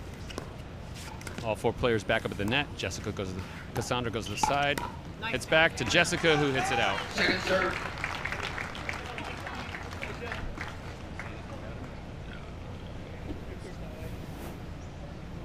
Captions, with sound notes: All four players back up at the net. KaSandra goes to the side. Hits back to Jessica who hits it out. (crowd cheers)